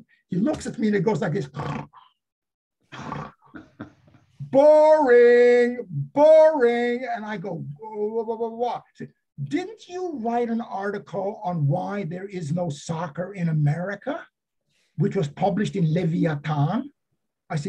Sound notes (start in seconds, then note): 2.9 snoring